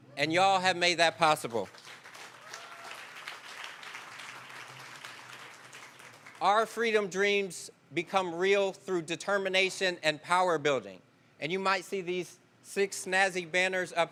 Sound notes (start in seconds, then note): 5.7 applause